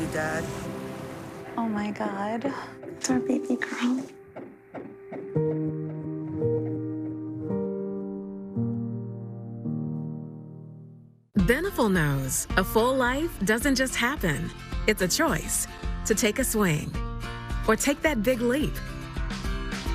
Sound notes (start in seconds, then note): 0.0 sound of ocean; 7.3 sound of heartbeat on ultrasound